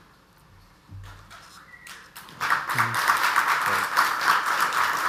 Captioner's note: audience applauds